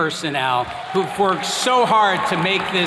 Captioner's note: attendees clapping